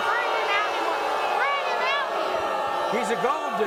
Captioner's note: audience boos